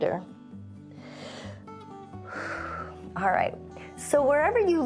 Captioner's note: inhales and exhales